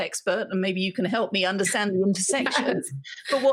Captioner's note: speaking faintly